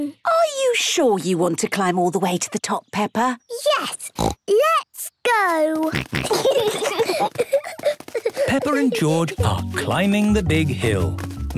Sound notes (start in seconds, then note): 4.1 snorts; 5.8 snorting, giggling